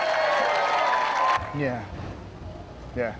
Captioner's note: audience cheering